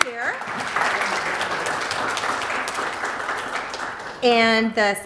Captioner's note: applause